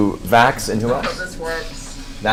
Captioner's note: laughs